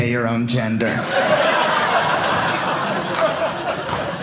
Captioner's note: audience laughing